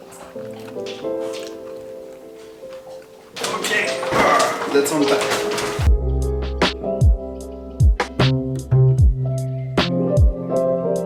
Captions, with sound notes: - Okay (grunts) lets unpack. (melodious music)